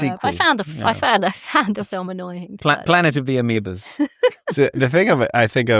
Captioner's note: laughter